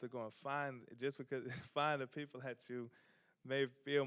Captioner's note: chuckles